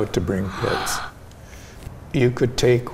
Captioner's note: gasps